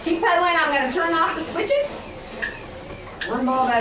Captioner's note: switches flipping